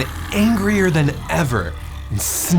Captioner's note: dragon growling